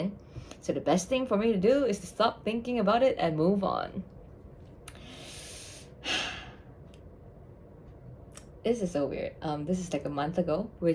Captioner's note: sigh count: 2